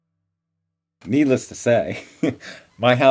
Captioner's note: laughs